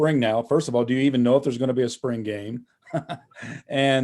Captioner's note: laughs